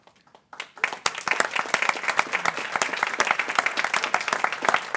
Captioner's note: people clapping